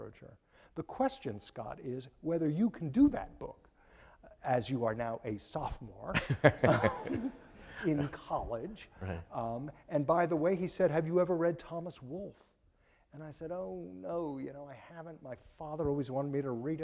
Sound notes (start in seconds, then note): 6.2 laughing